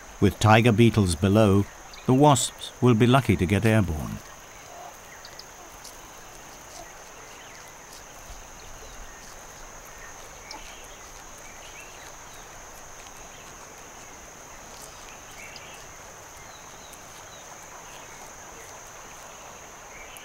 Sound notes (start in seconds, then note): 4.2 birds chirping; 4.2 munching